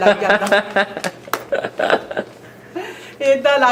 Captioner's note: laughs